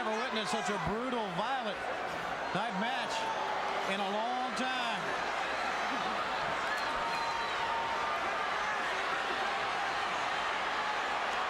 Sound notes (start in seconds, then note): 5.5 crowd chattering